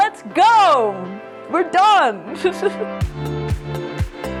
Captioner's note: laughs